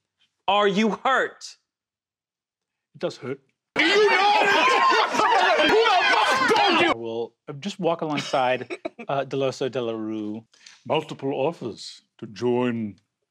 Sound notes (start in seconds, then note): 3.7 chaotic yelling